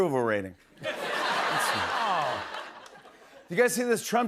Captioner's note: laughter